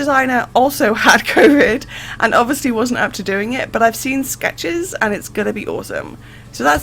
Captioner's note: laughs